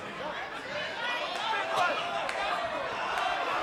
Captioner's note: crowd chattering